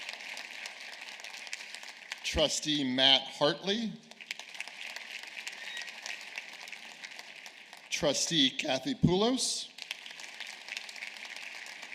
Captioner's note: applause